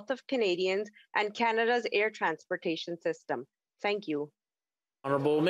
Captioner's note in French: voix de l'interprète